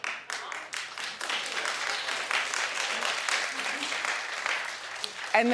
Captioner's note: audience clapping